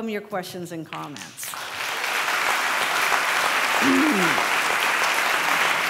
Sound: applause

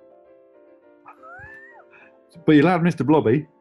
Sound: sniggering

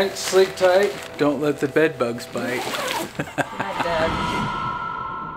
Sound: laughing; ominous music

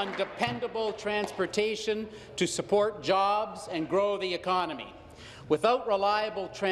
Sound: applause

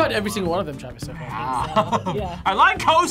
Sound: laughs

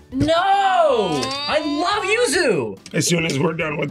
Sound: groans

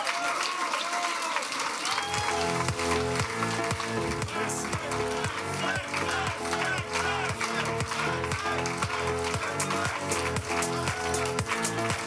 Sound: cheering and Applause

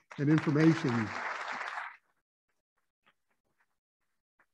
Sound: applauding

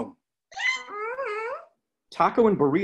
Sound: squealing

